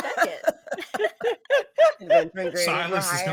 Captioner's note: all laughing